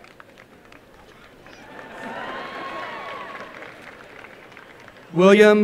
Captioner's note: applause and cheering